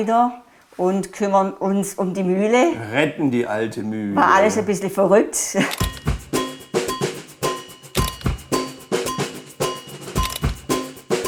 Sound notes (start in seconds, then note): 5.4 she laughs; 5.6 lively music